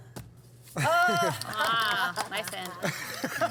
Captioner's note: laughs and claps